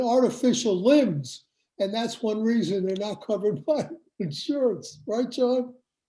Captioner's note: laughs